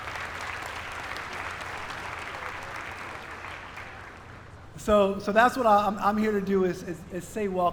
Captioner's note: applause